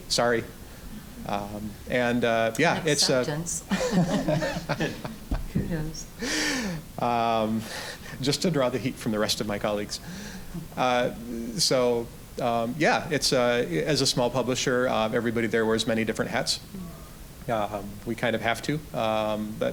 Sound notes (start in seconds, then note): 0.6 audience chuckling; 3.6 all chuckling